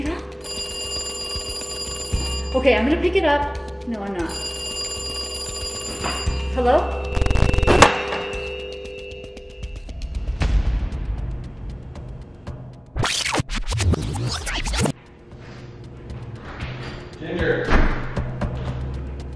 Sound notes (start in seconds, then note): 0.2 phone continues ringing; 7.1 Static; 13.0 fast forwarding sound